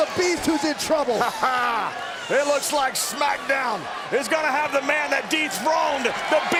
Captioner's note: laugh